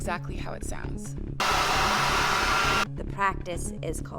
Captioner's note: machine rumbling